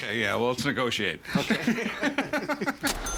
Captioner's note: laughing